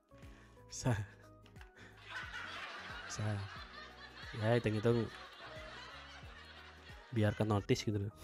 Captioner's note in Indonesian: tertawa